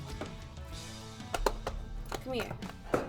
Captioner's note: belly tapping